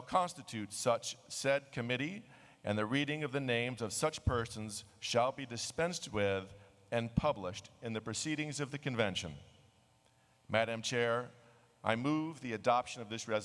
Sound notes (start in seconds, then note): none